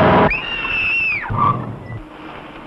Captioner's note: screams